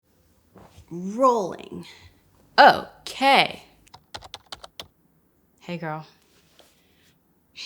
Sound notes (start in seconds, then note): 3.9 typing sounds